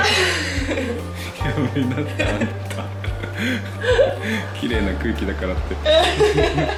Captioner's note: laughs